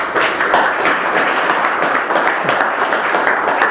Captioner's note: applause